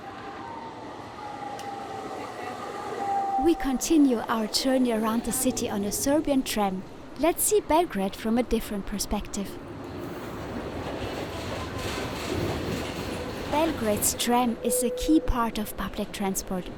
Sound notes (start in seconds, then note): 11.2 tram noise